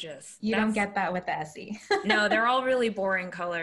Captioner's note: laughs